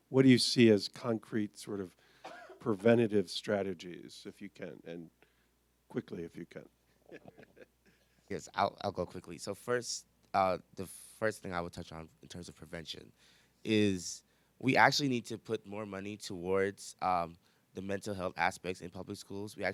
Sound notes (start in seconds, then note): 7.0 laughs